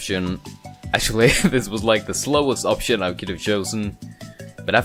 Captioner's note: chuckles